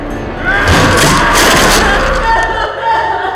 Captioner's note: Elizabeth screaming